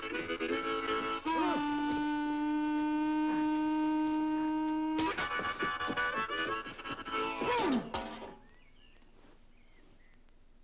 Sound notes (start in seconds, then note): 1.0 Beppe yelps; 3.6 suspender snaps; 7.2 metal clanks; 7.4 Beppe groans; 8.2 birds chirping